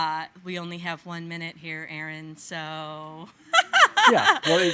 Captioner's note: laughing